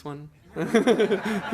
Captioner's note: laughter; laughs